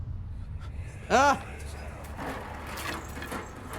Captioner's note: whispers; cranking sound